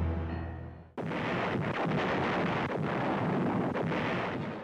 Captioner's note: explosions